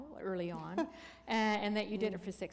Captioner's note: chuckle